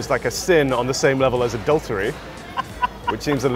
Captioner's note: laughing